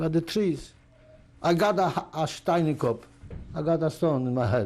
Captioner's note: yiddish